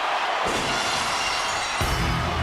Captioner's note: audience cheers; glass shatters; upbeat music